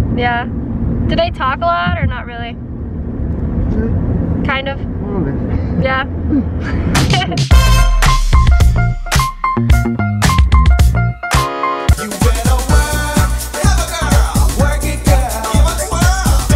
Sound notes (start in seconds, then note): 6.2 laughs; 7.7 upbeat music